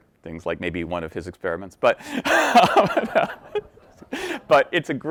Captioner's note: laughing